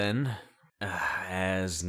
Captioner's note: grumbling